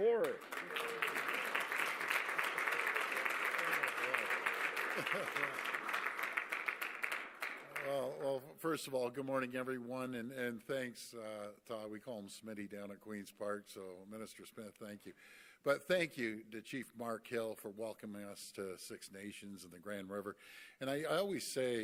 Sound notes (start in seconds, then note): 3.4 applause